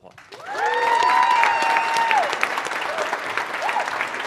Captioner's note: audience shouting